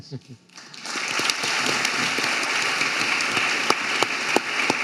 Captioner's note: audience applauding